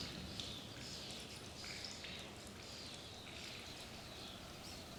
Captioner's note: birds chirping